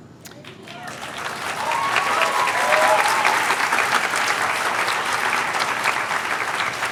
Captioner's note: cheers and applause